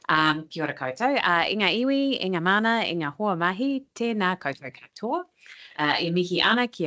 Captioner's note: speaking te reo Māori